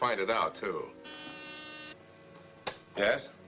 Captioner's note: intercom buzzes